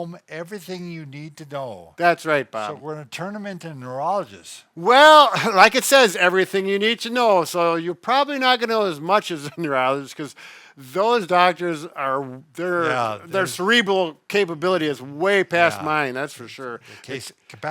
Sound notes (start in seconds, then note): 5.2 laughs